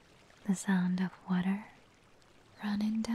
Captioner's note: none